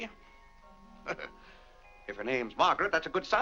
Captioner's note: chuckles